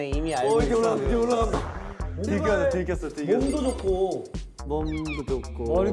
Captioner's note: heartbeat increases